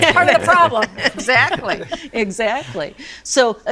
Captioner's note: all laughing